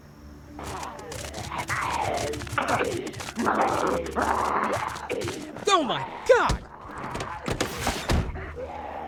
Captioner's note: zombie noises